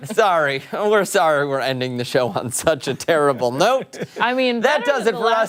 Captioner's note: laughter